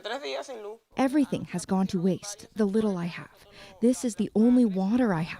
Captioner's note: speaking alternate language